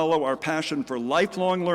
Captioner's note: none